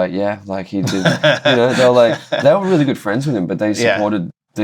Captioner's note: laughter